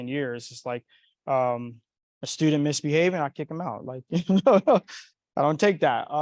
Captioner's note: chuckles